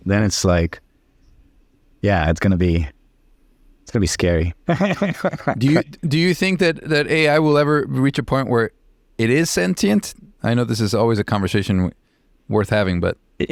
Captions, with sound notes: then it's like, yeah, it's gonna be scary. (laughing) - Do you think that AI will ever reach a point where it is sentient? I know this is always a conversation worth having, but.